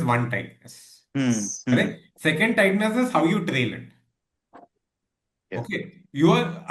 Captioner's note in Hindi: गला साफ़ करने की आवाज़